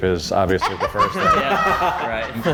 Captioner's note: laughing